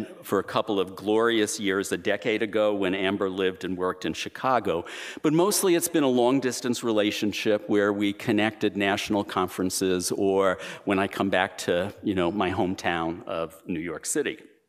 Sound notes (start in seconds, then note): none